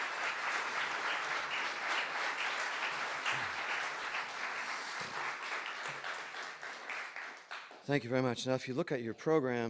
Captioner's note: applause